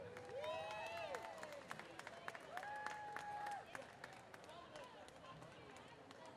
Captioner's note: applause